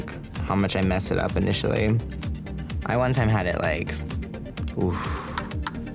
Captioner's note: sigh